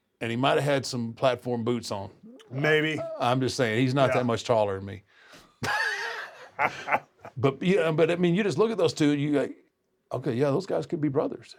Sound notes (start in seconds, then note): 5.6 laugh